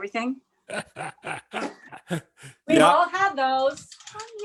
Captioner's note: laughs